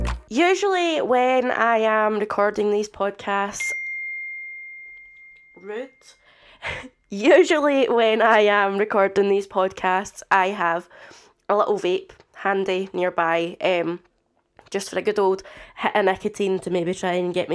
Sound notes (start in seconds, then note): 0.0 intro music; 0.2 more laughing; 5.5 apple message ping